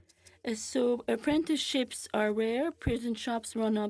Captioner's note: speaking French